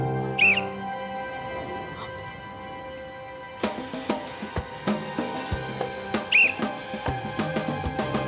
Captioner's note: blows whistle